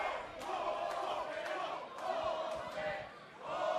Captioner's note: crowd cheering; crowd chatter